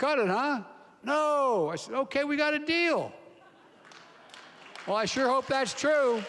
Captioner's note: applause